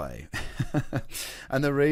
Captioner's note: chuckles